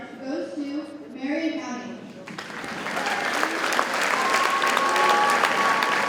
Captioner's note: audience cheers and applauds